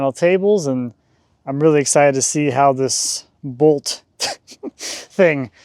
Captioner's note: chuckling